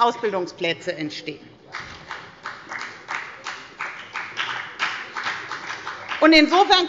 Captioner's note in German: Beifall bei der FDP